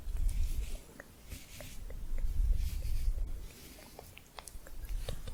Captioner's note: tongue clicking